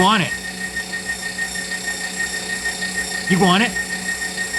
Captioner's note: meat grinder sounds